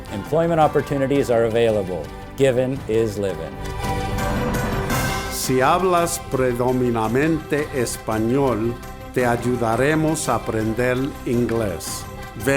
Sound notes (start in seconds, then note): 4.0 dramatic music; 5.9 speaks in foreign language